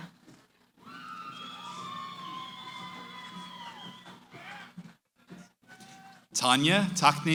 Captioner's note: cheering